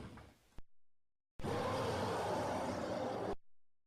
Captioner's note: roar